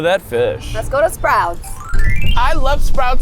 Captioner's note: scene tinkling